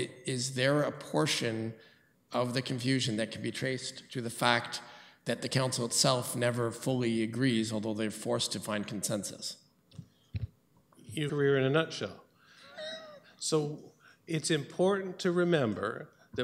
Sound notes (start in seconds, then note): 12.6 chuckles